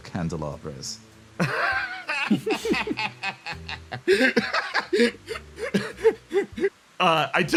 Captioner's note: Yaiyo Laughs